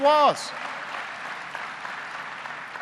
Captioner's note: applause